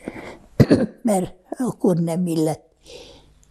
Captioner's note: clears throat